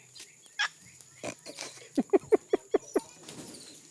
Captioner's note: laughing